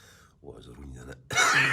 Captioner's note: coughing!